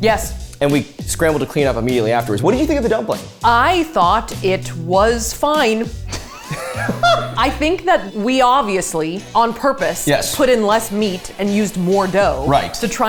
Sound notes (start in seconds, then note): 6.0 laughs